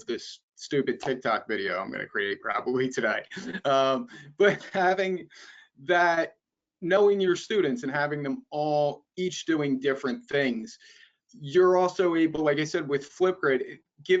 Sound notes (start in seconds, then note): 3.2 both laughing